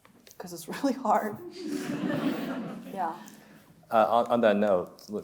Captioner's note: chuckles